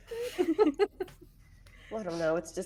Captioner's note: everyone laughs